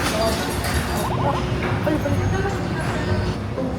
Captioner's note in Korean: 말만 빠름